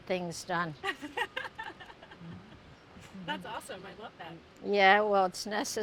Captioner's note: laughing